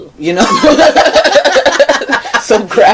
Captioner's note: laughing